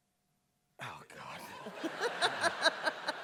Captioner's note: laughter